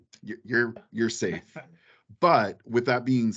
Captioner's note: laughing